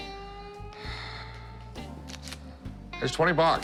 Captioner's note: sighs